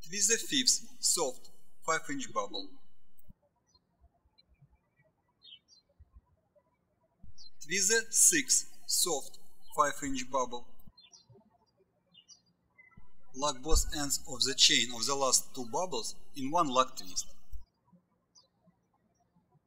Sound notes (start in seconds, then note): 4.1 birds chirping; 12.7 birds chirping